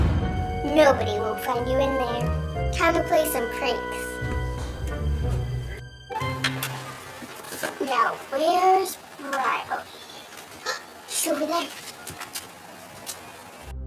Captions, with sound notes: Nobody will find you in there. Time to play some pranks. Now, where's Bryly? (Gasp) She's over there.